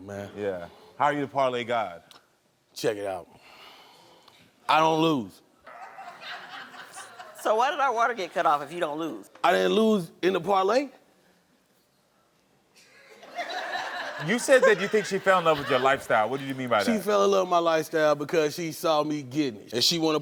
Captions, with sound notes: - Yeah. How are you a parlay god? - Check it out. I don't lose. (audience laughs) - So why did our water get cut off if you don't lose? - I didn't lose in the parlay. (audience laughs) - You said you think she fell in love with your lifestyle. What do you mean by that? - She fell in love with my lifestyle because she saw me getting it